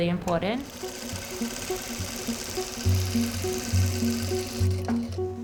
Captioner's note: sewing machine whirring